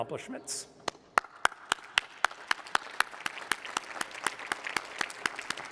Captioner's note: applause